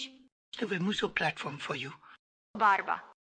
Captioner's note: in spanish